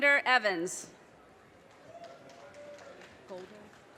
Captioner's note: audience cheers and applause